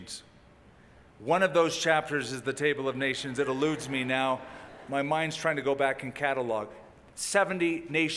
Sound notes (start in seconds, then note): 3.4 laughter